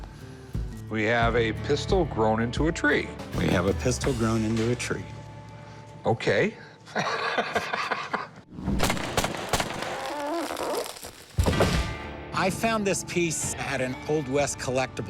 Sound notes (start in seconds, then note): 6.8 laughs